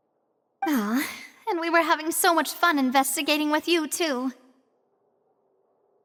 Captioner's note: sigh